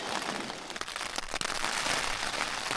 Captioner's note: fire crackling